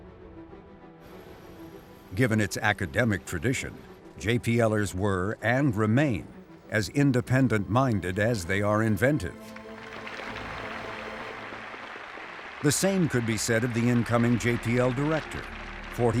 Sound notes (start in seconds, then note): 9.4 crowd cheering